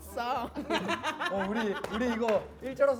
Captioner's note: bursts out laughing